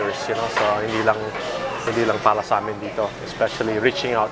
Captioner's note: speaking in foreign language